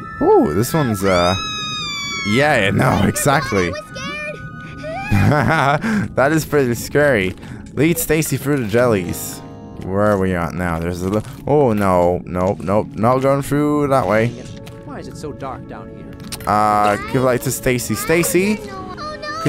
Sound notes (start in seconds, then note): 1.0 screaming; 4.7 laughs